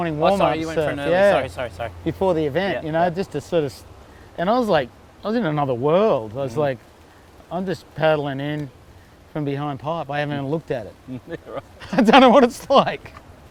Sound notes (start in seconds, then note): 11.1 laughs